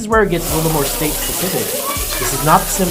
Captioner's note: meat sizzling